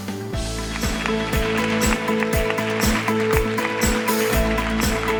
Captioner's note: audience applause